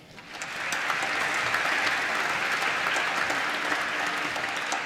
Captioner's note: applause